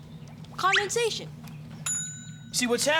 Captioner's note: bell dings